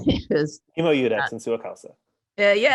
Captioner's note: speaks Latin